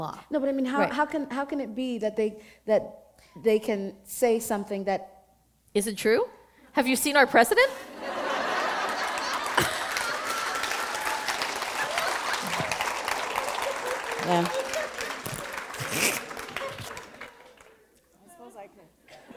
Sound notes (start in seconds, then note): 8.5 laughter; 9.6 applause; 17.4 laughter